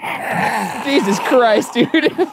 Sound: demonically exhales

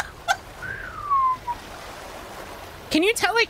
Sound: laughter; downward Slide Whistle

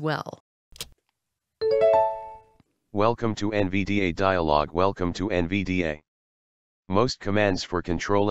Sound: voiceover

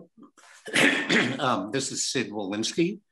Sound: clears throat

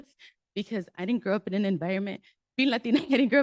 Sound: nervous laugh

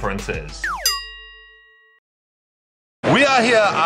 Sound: bell tone

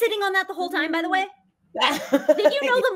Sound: laughs

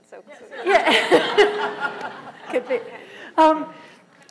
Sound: laughter

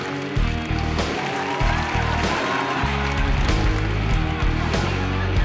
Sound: crowd cheers

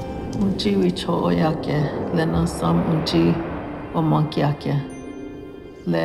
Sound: speaking Lakota

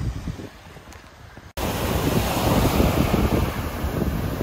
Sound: waves rushing

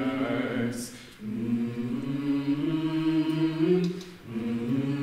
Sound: characters humming

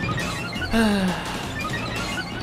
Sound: sigh

